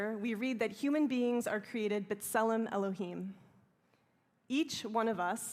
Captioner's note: hebrew